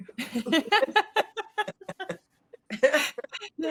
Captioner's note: all chuckle